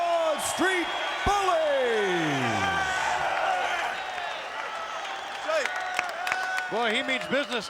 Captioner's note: applause